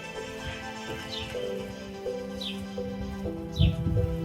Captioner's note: birds chirping